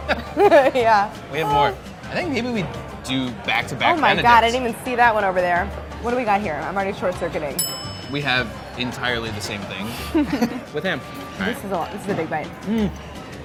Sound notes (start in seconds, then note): 0.0 laughing; 7.5 bell dinging; 9.9 laughing